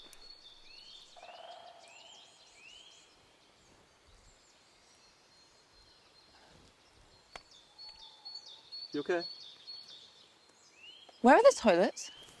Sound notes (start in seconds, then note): 7.5 birds chirping